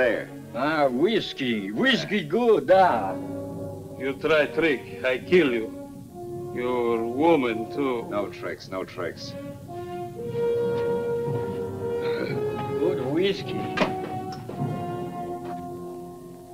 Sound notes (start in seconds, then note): 2.3 speaking Russian; 12.1 soldier grunts